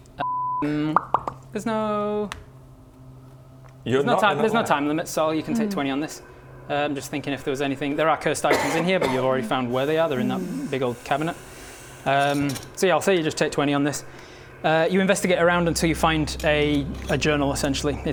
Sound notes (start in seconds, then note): 0.9 pop pop pop!